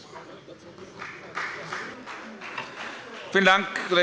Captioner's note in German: Beifall bei der FDP